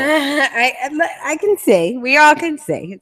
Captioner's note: laughs